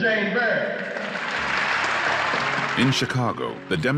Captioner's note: audience clapping